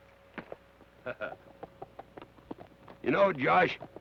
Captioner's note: Carney chuckles